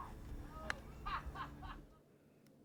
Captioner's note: laughing